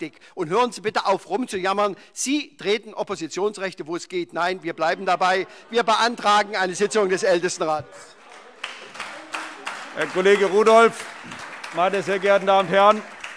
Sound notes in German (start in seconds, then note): 8.0 Beifall SPD, AfD, Freie Demokraten und DIE LINKE